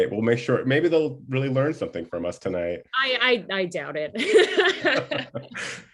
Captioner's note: laughter